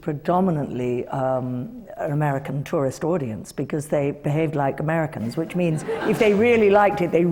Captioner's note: laughter